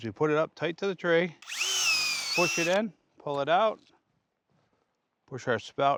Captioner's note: drilling sound